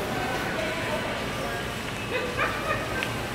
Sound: shoppers chattering; laughing

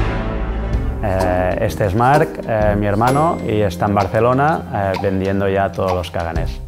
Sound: playful music; speaking foreign language

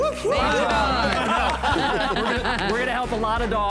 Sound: laughter

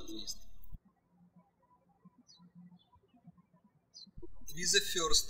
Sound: birds chirping

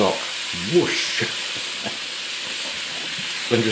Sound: sizzlin

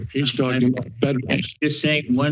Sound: mic thumps

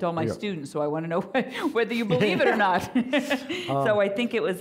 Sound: laughing

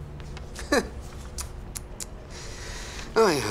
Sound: chuckles

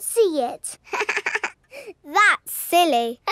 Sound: chuckles

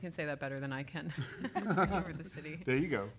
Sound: laughing

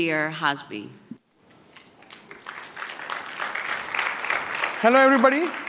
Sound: applause

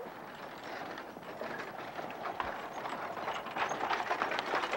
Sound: wagon rattling

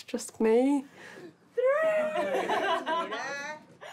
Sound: all laugh

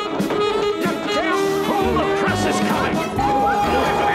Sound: shouting

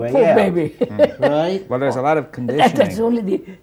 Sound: laughs

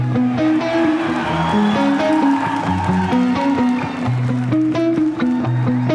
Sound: cheering; applause

